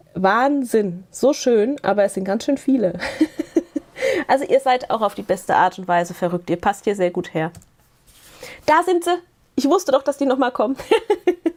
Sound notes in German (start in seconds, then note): 3.0 Gelächter